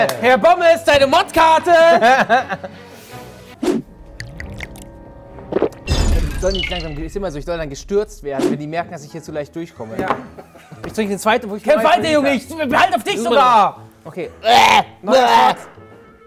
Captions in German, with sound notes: Herr Bommes, deine Mod-Karte! Das ist immer so, ich soll gestürzt werden, wenn die merken, dass ich hier zu leicht durchkomme. Ja. Kämpf weiter, Junge! Okay. (Würgelaute)